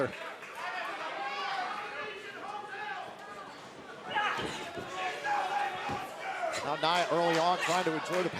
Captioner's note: crowd chatter